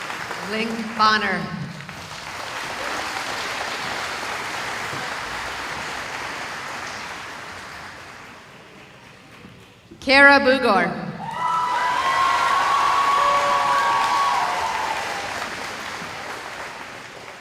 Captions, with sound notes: [applause] Kara Booger [cheering]